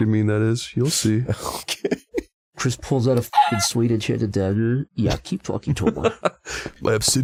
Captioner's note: laughs